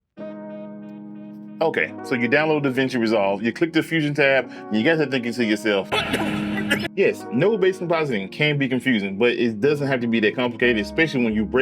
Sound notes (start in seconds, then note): 0.0 soft music; 5.8 coughing